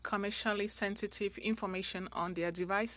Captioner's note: speaking French